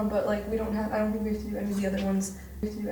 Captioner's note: disembodied Voice